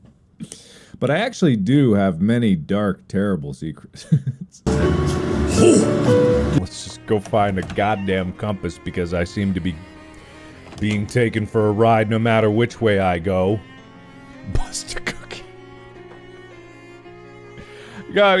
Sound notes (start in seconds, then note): 4.6 laughs; 14.3 whispered, starting to laugh